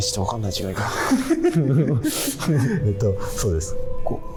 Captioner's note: laughing